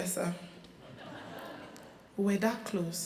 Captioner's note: crowd laughing